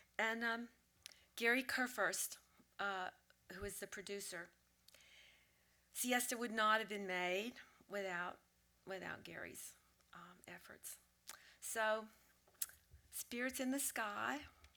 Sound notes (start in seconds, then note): none